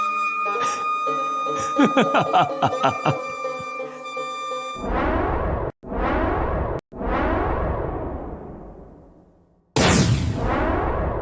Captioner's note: huh--hahahahahahahahaha